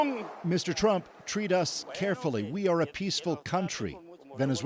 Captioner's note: speaking alternate language